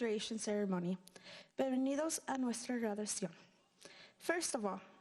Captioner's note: speaking in foreign language